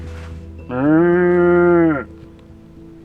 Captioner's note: Roberto moos